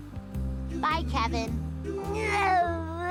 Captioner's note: crying